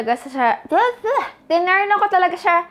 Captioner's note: stutters